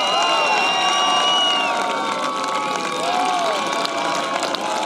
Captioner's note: cheering; applause